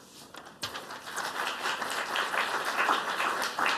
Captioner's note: applause